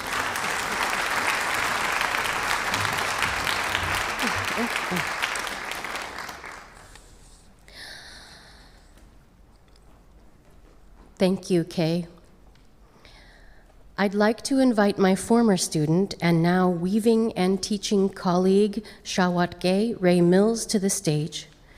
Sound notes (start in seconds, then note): 7.3 applause